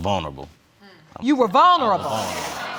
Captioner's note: audience exclaims